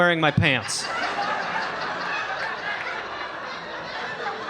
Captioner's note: audience laughing